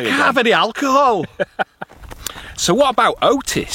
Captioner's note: laughs